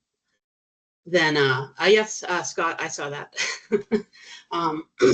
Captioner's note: chuckling